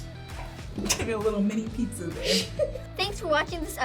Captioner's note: laughs